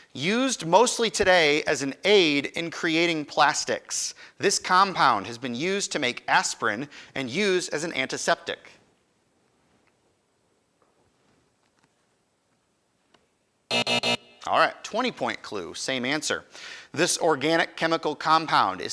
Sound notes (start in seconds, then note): 13.7 alarm buzzes